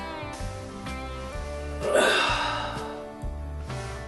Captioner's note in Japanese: ため息